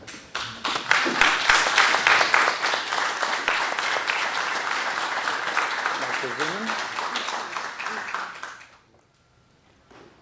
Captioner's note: applause